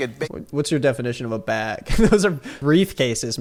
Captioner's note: laughs